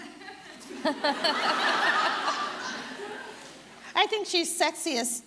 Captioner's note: audience laughing